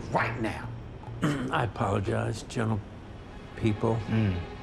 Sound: clears throat

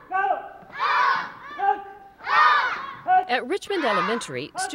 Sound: shouting

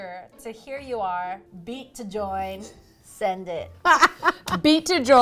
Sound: laughs

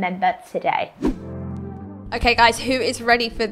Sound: air whooshing

